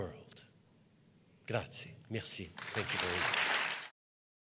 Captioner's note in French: Applaudissements